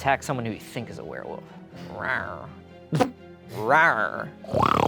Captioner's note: growls; snorts